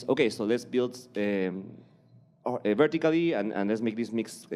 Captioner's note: none